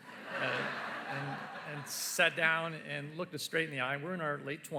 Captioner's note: laughter